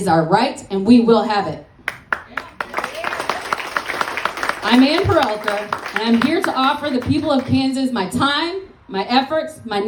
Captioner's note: applause